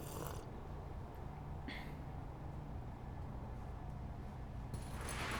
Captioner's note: gulps, exhales deeply